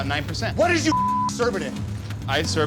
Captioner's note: beep